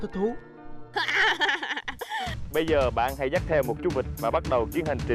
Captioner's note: laughing